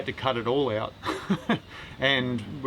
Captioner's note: laughs